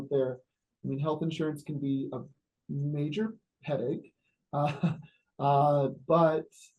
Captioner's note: laughs